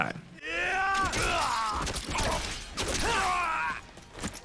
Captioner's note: characters fighting